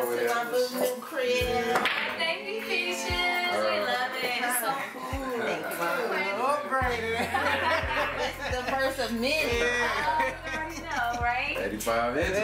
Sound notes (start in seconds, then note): 6.9 all laugh